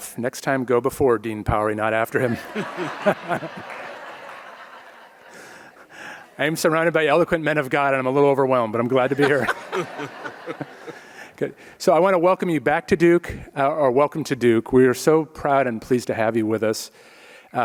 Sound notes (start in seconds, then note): 2.2 audience laughs; 2.2 laughs; 9.0 audience laughs